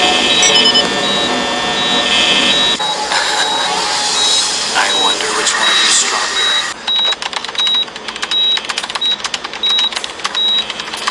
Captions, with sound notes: [Quiet laughter] I wonder which one of you's stronger. [Keyboard clacking]